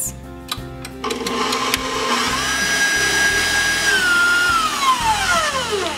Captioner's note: mixer running noise